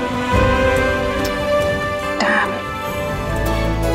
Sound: Ananya tuts

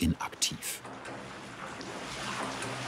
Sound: splashing, whirring

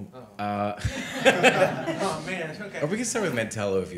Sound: all chuckles

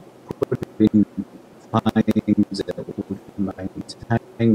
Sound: audio distorting

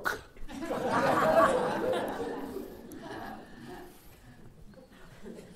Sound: laughter

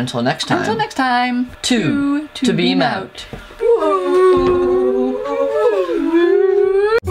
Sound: whooo

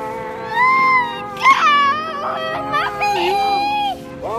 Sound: soft music; playful shouting

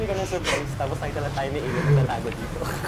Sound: snickers

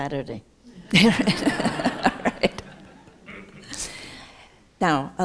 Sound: laughter

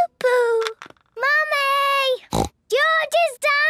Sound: snorts

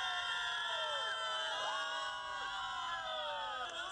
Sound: nat sound crowd

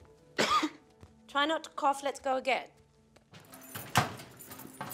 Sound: coughs

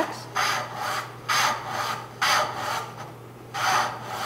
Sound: rasping

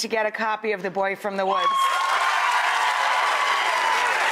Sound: applause

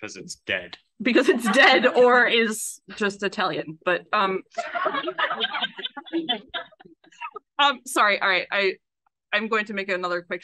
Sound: laughs

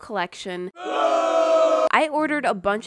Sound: booooooo

